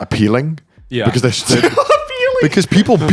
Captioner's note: laughs